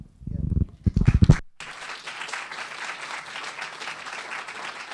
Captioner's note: audience applauding